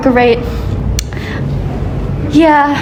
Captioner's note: clicks tongue